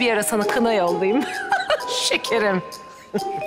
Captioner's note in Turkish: Gülme sesi